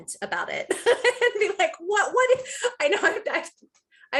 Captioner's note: laughing